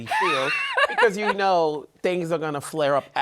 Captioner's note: laughs